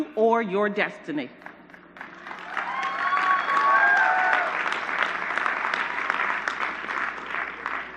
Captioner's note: applause